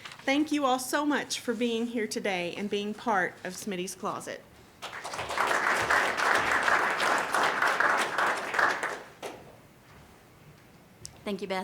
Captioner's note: applause